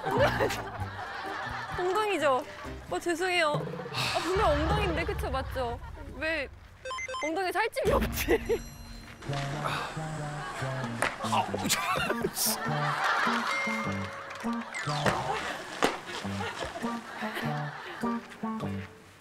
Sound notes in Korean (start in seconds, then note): 3.8 터벅터벅